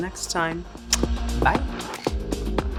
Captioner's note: blows kiss